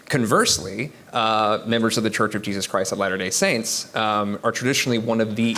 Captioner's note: none